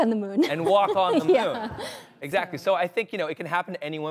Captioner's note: laughs